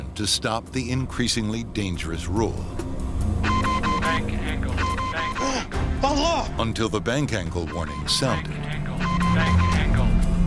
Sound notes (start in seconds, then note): 3.4 alarm; 5.6 pilot gasping; 7.6 alarm